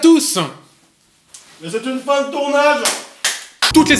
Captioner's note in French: clap